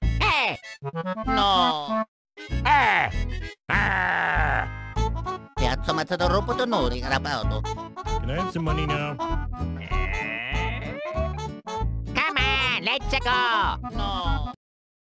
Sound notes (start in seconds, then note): 2.6 wario gibberish